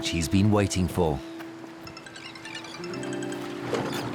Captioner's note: mobile phone rings